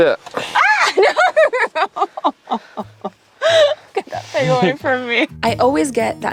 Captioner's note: squeals